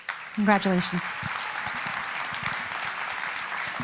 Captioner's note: applauding